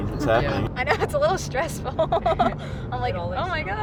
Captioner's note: laughing; chuckles